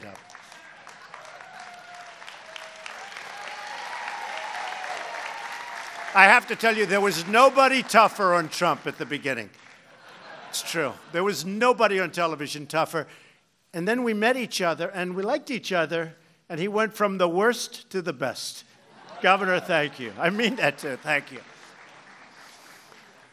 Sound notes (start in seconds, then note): 0.0 applause; 9.8 laughter; 19.0 laughs